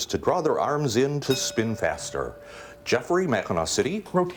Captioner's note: bell rings